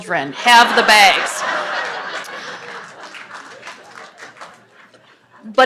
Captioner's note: audience laughs